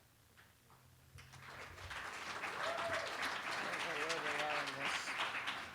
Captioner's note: applause